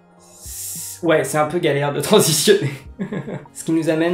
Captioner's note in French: rire